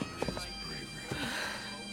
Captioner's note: sighs